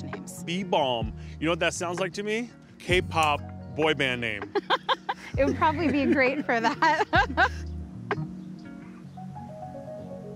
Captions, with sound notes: - Bee balm. You know what that sounds like to me? K-Pop boy band name. - (laughs) It would probably be great for that.